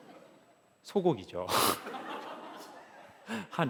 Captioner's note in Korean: 웃음; 웃음